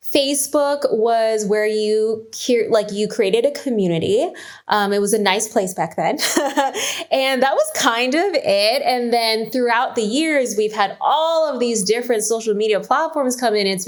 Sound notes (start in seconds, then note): 6.7 laughs